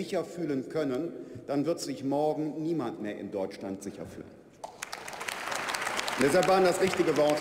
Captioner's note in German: Beifall bei der FDP und der CDU/ CSU sowie bei Abgeordneten der SPD